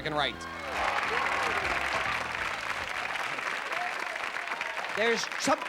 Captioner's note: applause